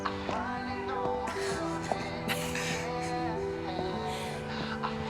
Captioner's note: chuckling; soft music